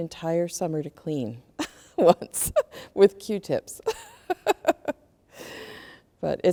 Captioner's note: laughs